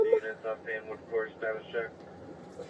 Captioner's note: radio chatter